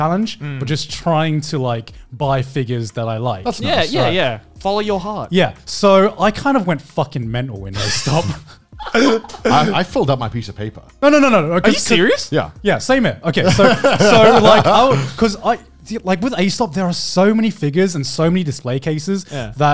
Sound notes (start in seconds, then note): 8.7 laughs